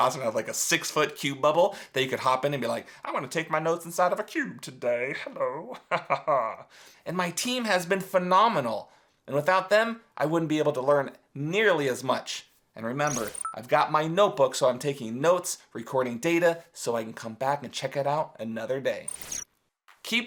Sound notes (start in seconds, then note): 5.2 laughs